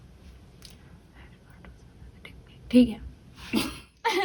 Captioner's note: whispering